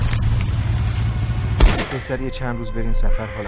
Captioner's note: gunshot